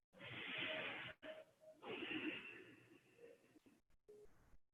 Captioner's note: inhaling and exhaling